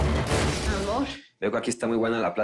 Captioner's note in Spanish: Explosión